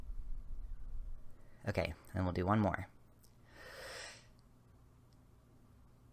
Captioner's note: same breathing pattern